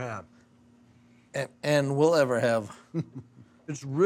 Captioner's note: chuckling